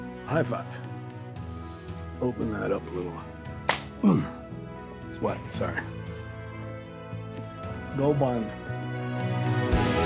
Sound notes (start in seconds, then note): 3.7 hands slap; 8.0 Tector speaks faintly